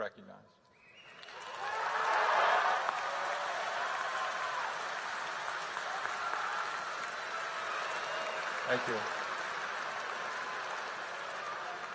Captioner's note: applause